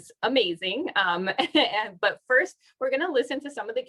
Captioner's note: laughter